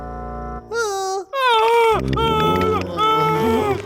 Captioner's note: screaming